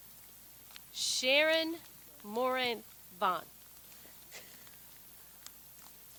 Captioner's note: chuckles